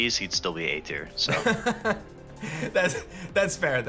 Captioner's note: laughs